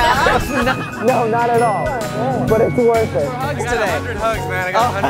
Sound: laughs

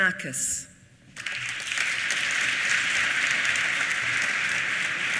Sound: applause

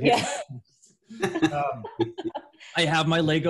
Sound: laughs

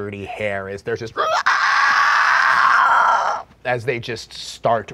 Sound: monster screeching

